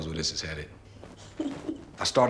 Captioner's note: Lillian chuckles